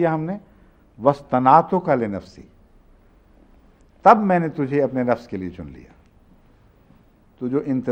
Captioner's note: Arabic